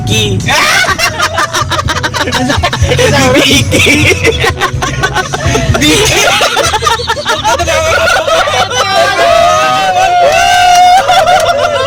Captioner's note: laughing